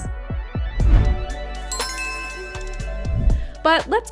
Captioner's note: logo humming and chiming